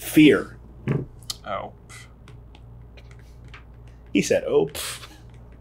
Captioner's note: scoffs